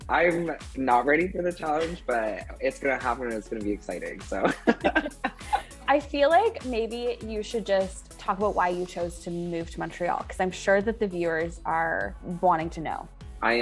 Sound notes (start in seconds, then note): 4.4 both laughing